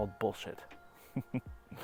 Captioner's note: laughs